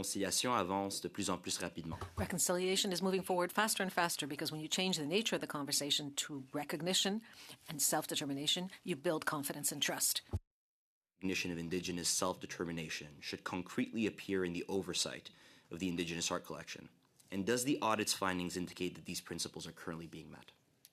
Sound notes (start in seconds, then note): 6.7 speaking French